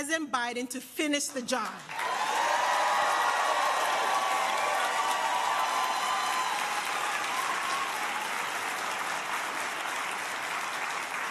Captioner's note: applause